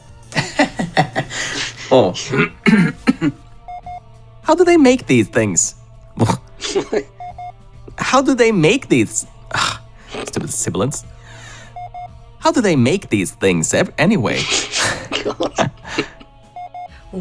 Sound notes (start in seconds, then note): 0.0 uncontrollable laughter; 0.1 clears throat; 14.4 both start laughing